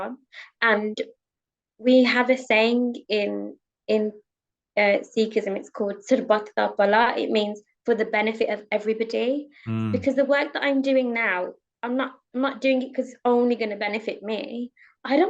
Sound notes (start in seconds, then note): 5.5 speaking foreign language